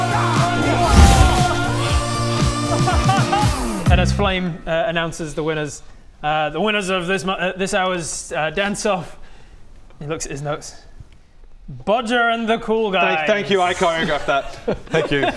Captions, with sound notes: Yeah! *whoosh!* *victorious laugh* And as Flame announces the winners the winners of this hour's dance off he looks at his notes Bodger and the Cool Guys! Thank you I choreographed that, thank you